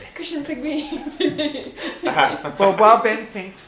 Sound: sighs; giggling

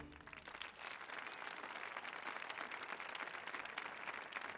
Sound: applause

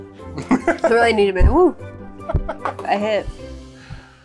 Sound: laughs

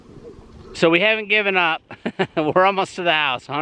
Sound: laughing

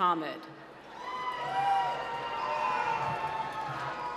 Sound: cheering

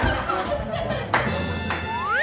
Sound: sound effect:hop; sound effect:ta-da

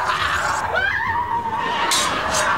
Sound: screaming

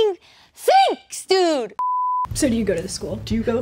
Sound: beep

